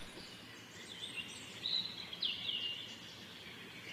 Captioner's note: birds chirping